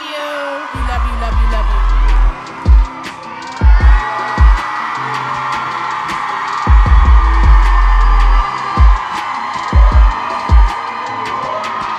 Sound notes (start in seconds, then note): 2.4 deep rhythmic music continues; 4.3 audience cheering loudly